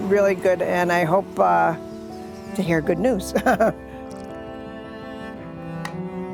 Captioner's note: chuckles